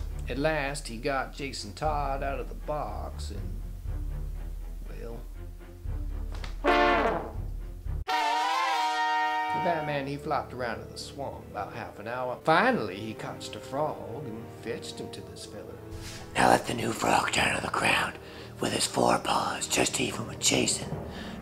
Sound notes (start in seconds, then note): 6.3 suspenseful honking; 8.1 dramatic whirring